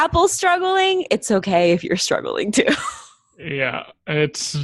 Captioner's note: laughs